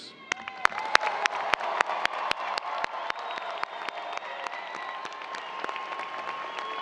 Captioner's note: cheers and applause